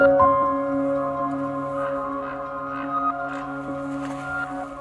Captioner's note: raven calling